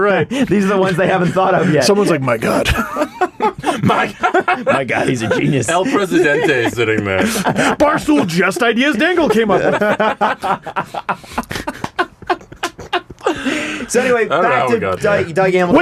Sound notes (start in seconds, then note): 2.6 laughter; 11.5 continuing and ridiculous laughter